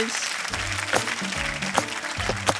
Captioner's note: applause